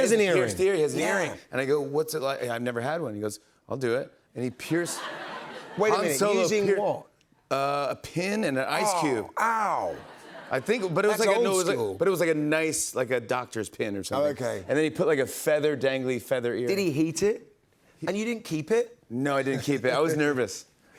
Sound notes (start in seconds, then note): 4.7 laughter